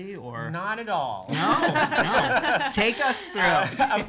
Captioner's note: laughs